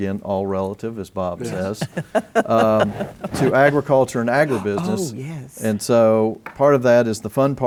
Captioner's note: laughter